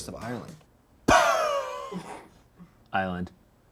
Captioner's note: blows air